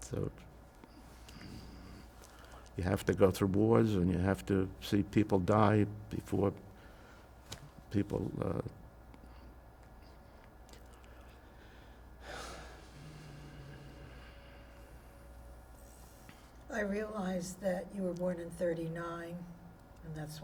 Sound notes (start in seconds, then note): 12.2 sighing